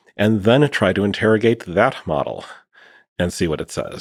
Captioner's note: none